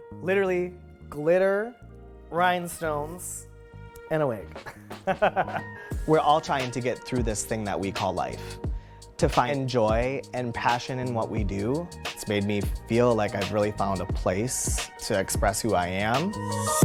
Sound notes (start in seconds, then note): 4.7 laughs